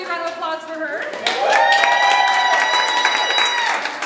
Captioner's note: audience applause